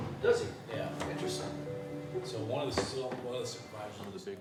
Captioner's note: officers chattering